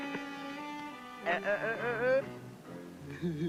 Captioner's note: scolding; giggling